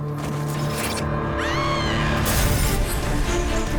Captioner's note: bellatrix screams